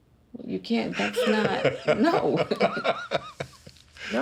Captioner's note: laughter